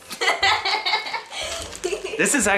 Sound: laughing

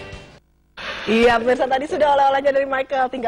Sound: non-english speech

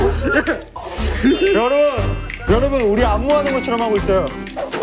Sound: laughing happily

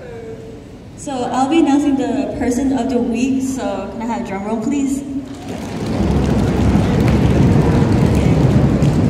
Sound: audience stomping

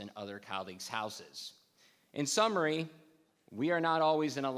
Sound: none

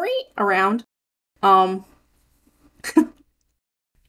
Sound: chuckle

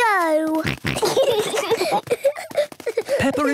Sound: snorting, giggling

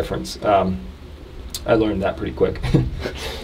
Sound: laughs

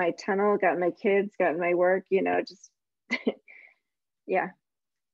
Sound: chuckles

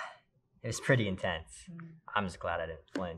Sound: laughing

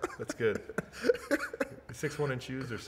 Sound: laughs

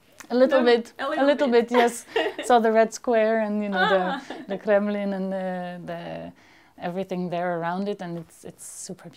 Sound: laughs

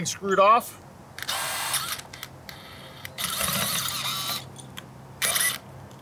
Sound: drill machine drilling

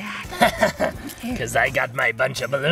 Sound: laughs mischievously

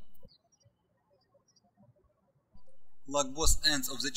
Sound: birds chirping

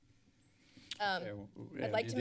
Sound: clicks tongue

